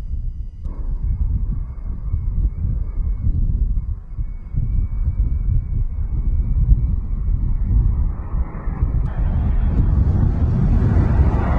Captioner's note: sound of large jet approaching and flying